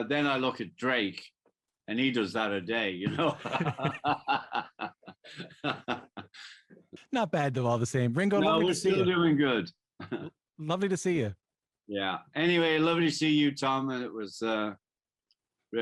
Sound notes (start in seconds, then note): 5.0 laughter